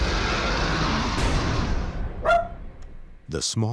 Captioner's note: barks